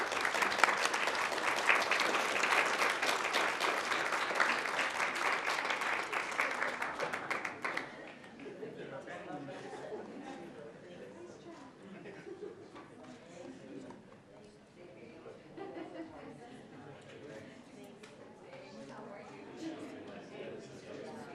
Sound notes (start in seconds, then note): 5.4 applause